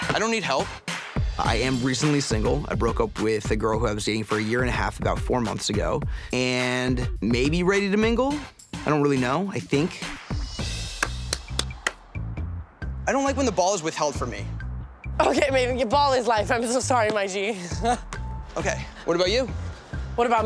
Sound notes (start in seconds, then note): 11.0 claps; 17.4 laughs